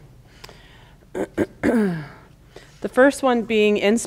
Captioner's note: clears throat